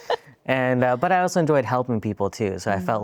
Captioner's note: laughing